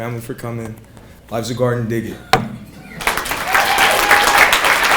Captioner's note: people clapping